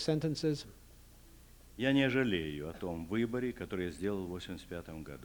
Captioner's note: non-english speech